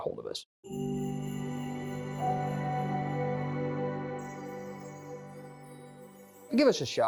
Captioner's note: chime Sound